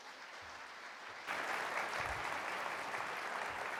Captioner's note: applause